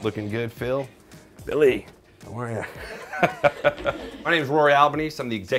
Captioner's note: laughs